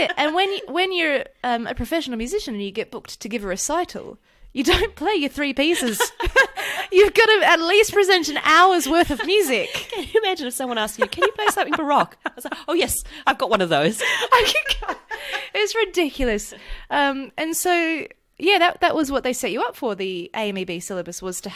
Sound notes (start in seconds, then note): 13.9 laughs